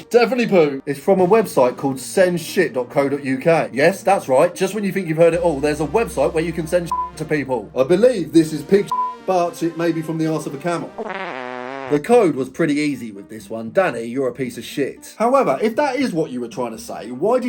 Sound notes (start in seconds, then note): 6.8 beep; 8.8 beep; 10.9 fart blares